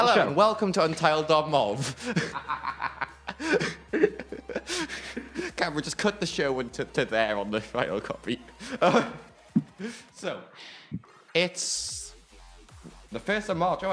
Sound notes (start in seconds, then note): 1.8 laughter